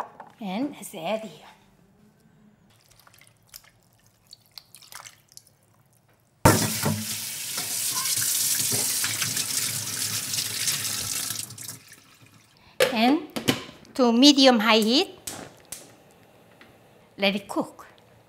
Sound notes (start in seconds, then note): 6.6 running water